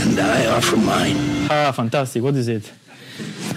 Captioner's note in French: rires des étudiants